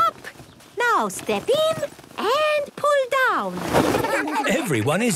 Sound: laughter

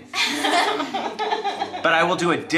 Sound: everyone laughing

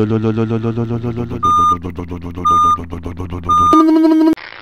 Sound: engine noise; back up beeper

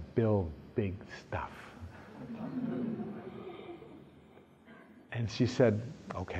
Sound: laughter

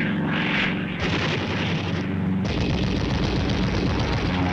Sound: machine gun firing

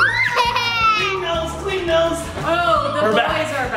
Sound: giggles

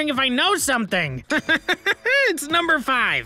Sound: laughs

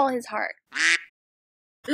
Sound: quack

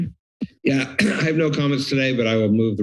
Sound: clears throat

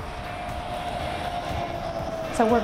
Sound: quiet wheels on road without motor sound

